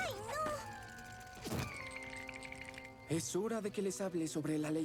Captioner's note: teeth chattering